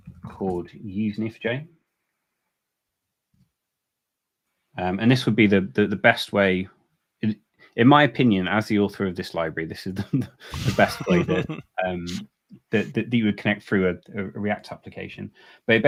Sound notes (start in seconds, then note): 10.0 laughing; 10.0 laughs